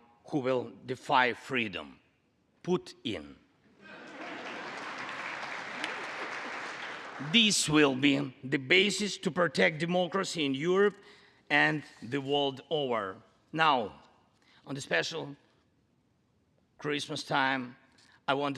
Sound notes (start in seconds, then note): 4.0 congress applauding